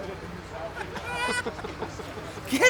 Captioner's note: laughter